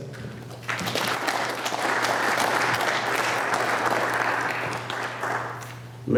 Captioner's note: applause